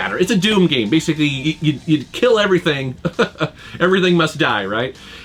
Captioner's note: chuckles